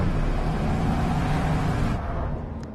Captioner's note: engine accelerates